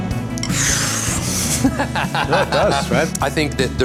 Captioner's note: laughing